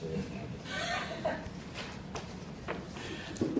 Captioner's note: laughing